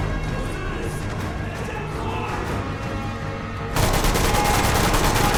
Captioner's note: dramatic music; gunfire